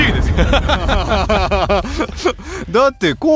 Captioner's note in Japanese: 笑い